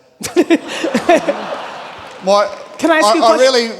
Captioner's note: all laughing; audience laughing